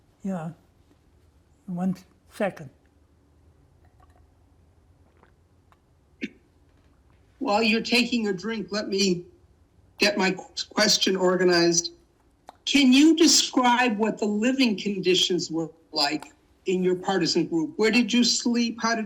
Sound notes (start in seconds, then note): 4.8 drinking